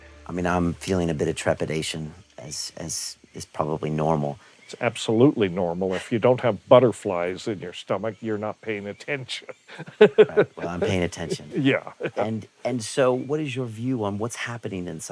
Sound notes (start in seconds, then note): 9.3 laughs